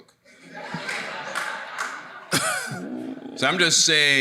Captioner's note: audience laughing